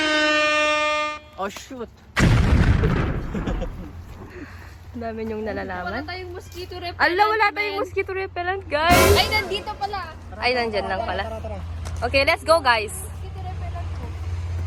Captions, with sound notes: Or shoot (shooting a gun) You know a lot of things. We don't have a mosquito repellant! (worried) Oh wait. It's in my bag. Ah okay. It's there. Okay, let's go guys. Can you get my mosquito repellant?